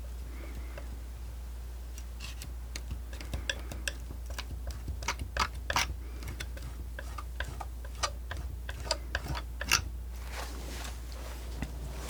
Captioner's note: tapping